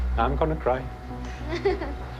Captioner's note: woman laughs